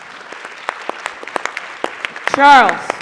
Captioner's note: applause